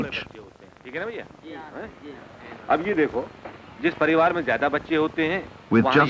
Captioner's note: non-English speech